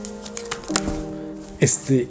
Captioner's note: cards landing